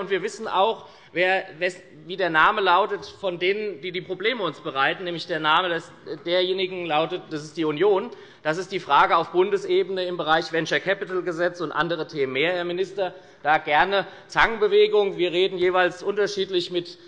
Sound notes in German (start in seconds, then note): none